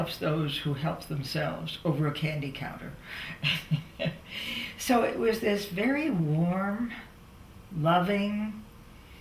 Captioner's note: laughs